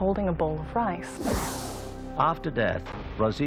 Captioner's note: air whooshes